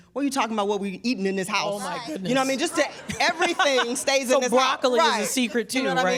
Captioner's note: laughter